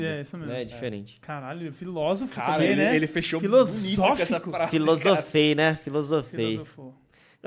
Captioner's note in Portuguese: risos